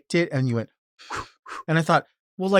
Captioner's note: blows softly